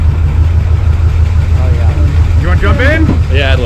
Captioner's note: car idles